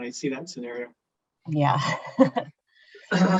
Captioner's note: laughing